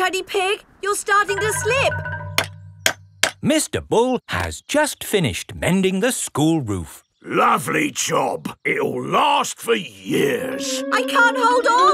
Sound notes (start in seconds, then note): 3.0 clanking